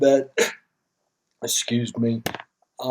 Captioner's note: coughs